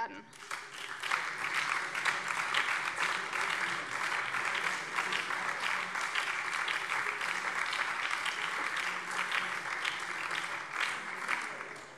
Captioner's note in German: Beifall BÜNDNIS 90/DIE GRÜNEN, SPD, Freie Demokraten und vereinzelt CDU